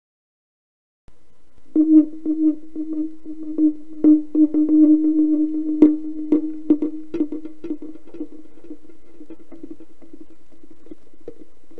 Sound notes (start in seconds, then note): 0.0 eerie sound